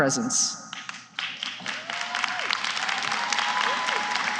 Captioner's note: applause